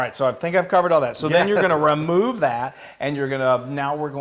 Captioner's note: laugh